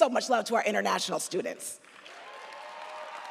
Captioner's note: audience applauds